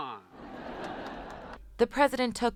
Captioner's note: laughter